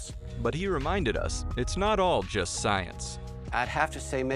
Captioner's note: voiceover